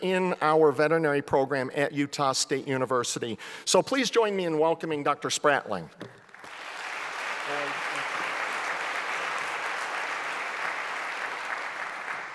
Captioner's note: applause